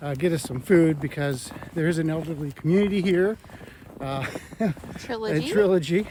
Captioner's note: laughs